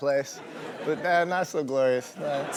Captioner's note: laughing in audience